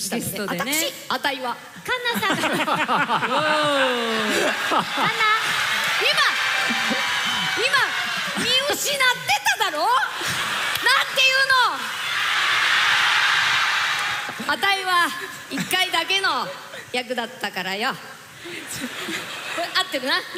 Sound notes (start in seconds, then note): 2.0 laughter; 5.5 cheers; 9.9 cheers; 9.9 laughter; 18.5 chuckles